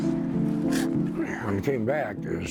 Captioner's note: heavy piano music; sound of heaving